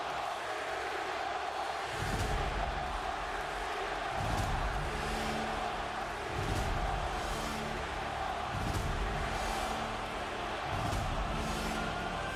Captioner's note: applause